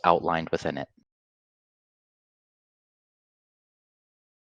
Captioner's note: silence